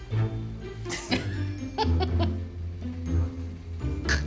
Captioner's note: snickering